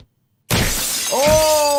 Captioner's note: glass shatters